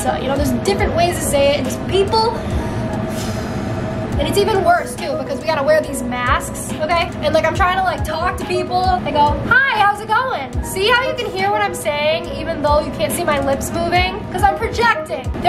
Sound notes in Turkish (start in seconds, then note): 2.4 iç çeker